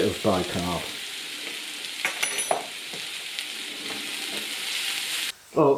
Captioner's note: gentle sizzlin